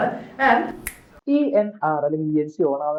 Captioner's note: snapping